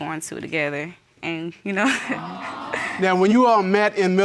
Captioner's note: laughs